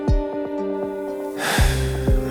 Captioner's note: sighs